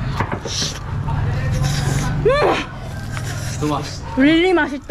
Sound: softly tearing flesh

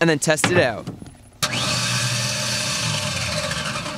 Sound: machine whirring

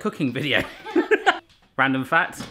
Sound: laughs

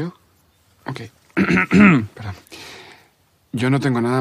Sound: clears throat

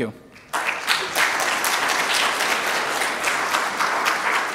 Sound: audience applause

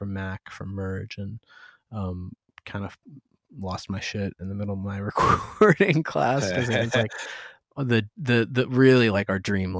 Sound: laughter

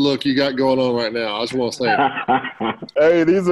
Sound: laughter

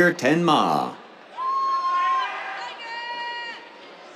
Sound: cheers

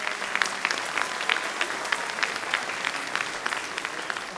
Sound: audience clapping

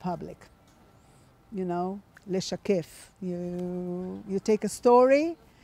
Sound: hebrew

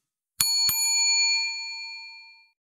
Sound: bell dings

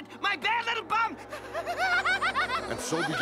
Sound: laughter

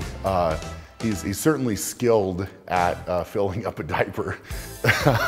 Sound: laughs

